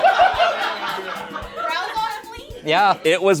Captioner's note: everyone laughs